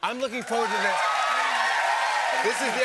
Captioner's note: cheers and applause